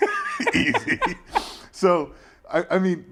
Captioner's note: laugh